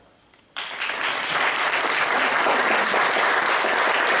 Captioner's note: applause